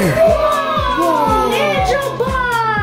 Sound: family cheering

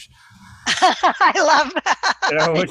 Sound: laughs

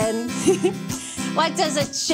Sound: chuckles

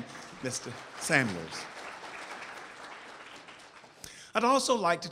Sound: audience applauds

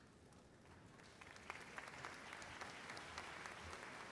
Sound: applause

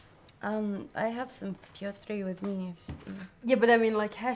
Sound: speaking in a foreign language

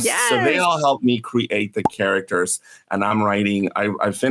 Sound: pop

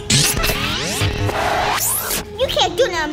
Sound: mechanical and robotic sounds

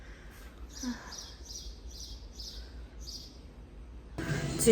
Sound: birds chirping through screens

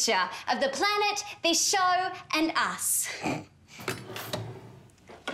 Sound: snorts

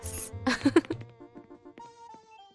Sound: laughs

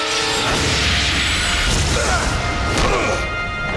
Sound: grunting

